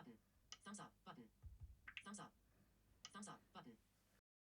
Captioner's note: click